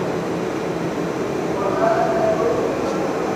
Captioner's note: distant chattering